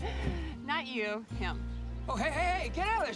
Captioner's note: laughs